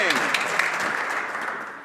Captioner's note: some Applause